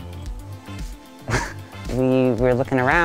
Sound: laughing

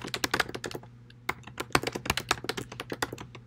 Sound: typing sounds getting louder

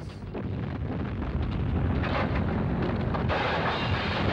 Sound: exploding

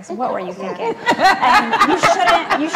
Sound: laughs

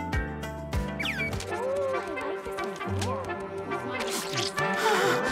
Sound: indistinct chattering

